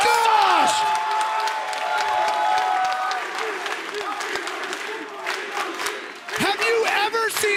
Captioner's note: applause